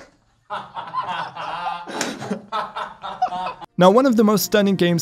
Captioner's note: laughing